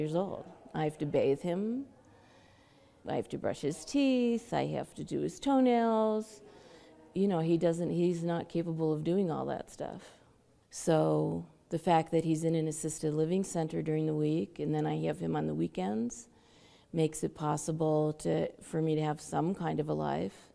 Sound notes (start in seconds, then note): none